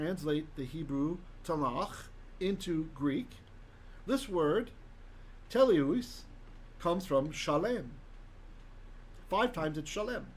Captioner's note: Hebrew